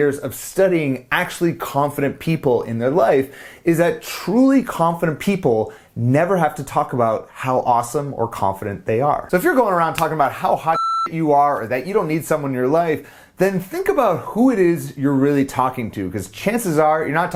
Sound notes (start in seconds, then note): 10.7 beep